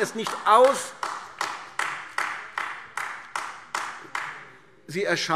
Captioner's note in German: Beifall AfD